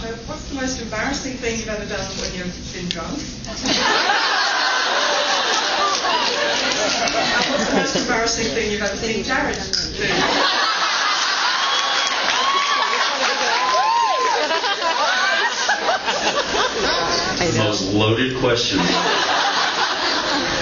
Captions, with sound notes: What’s the most embarrassing thing you’ve ever done when you’ve been drunk [laughs] and what’s the most embarrassing thing you’ve ever seen Jared do. [more laughter] The most loaded question...